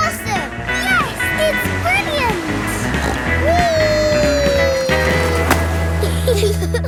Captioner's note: snorts; giggle